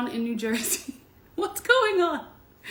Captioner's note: laughs